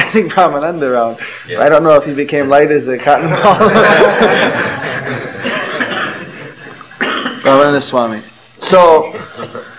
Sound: laughter

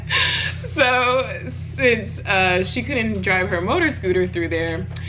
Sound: laughs

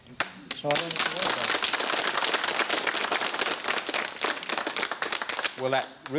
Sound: applause

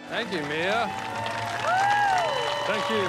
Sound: cheers and applause

